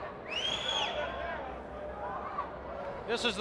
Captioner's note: audience member whistles